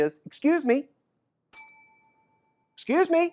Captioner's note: bell rings